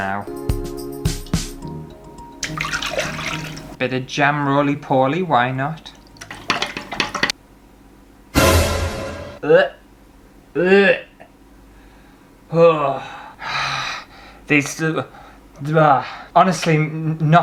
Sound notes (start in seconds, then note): 8.4 alert sound effect; 9.1 gagging